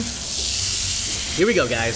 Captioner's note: pans sizzling